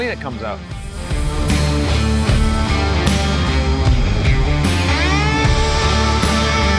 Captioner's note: upbeat rock music; water sprays